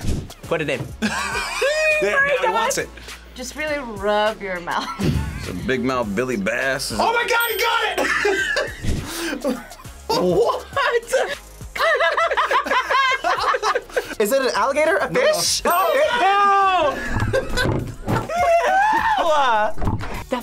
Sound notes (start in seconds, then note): 10.0 laughs; 11.7 group laughs; 19.1 both laugh